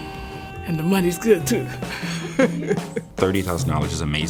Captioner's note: laughs